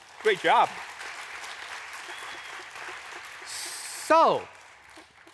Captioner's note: audience applauds